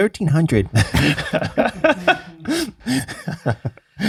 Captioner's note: group chuckling